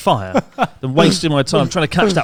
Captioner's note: laughs